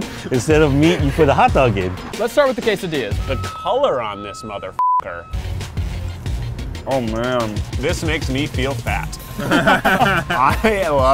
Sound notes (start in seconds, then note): 6.2 beep; 9.2 laughs